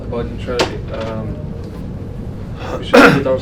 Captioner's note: coughs